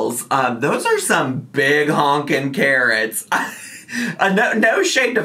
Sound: chuckles

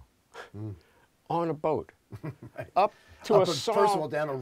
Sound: laughter

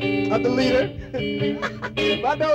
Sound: speech laughs

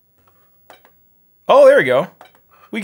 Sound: beeping

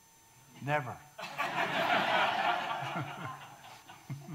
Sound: audience laughing

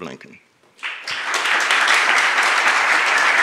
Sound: applause

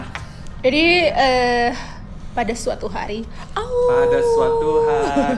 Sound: wolf howling

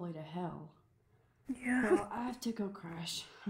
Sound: laughs

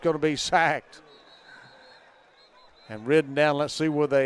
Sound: whistle blowing

